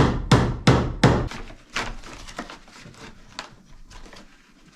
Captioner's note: hammering